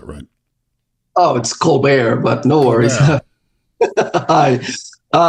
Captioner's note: laughs